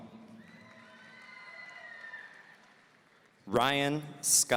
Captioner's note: audience cheering